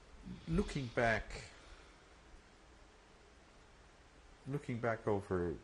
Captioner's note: pauses for 3 seconds